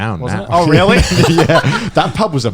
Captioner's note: Conner and Joey laughing